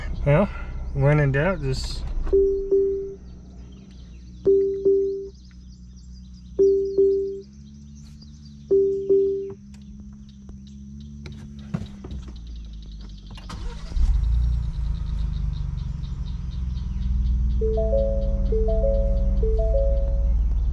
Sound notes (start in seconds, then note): 2.3 alarm beeping; 13.2 engine start; 17.6 alarm beeping